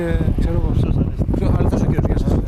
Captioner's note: sound of strong wind